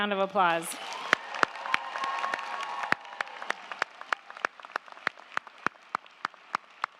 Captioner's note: crowd cheering; crowd clapping